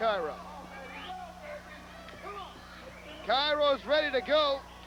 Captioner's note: crowd chatter